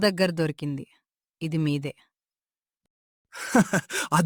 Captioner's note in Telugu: నవ్వు